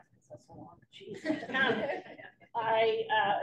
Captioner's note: laughter